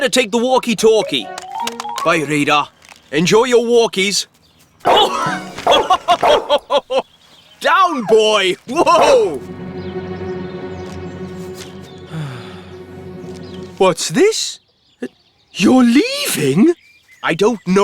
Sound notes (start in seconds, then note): 5.6 barking Excitedly; 5.7 Sam Laughing; 10.5 ominous Music